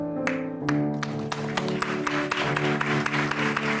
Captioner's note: applause